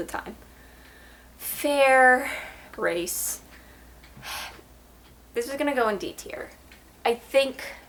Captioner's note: sigh